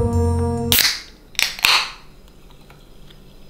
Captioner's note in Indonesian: membuka kaleng